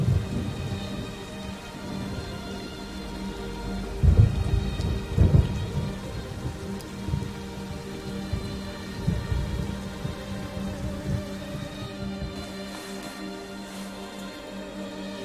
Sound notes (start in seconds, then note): 0.2 dramatic music; 3.9 thunder rumbling